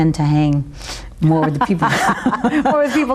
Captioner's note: laughs